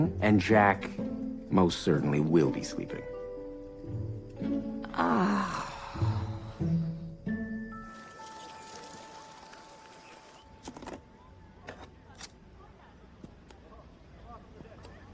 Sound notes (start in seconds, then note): 4.9 exasperated sigh